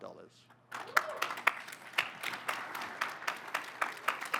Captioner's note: audience applauding